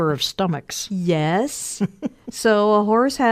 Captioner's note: chuckles